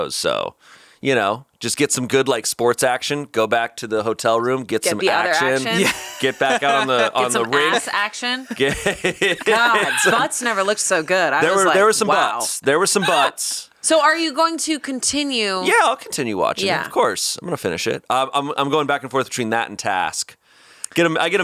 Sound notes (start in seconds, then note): 6.0 laughs; 8.4 laughing